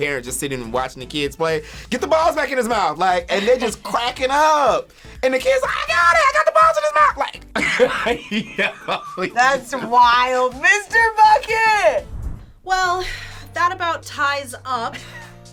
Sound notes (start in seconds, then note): 7.5 laughs; 15.3 upbeat music